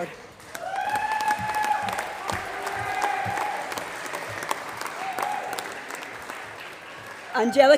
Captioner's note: applause